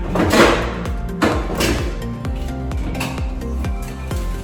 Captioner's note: dishwater parts clattering